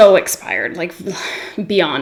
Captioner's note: sighs